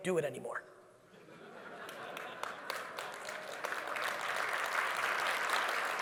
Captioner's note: audience laughing and clapping